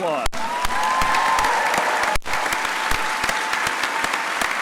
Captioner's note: crowd applauding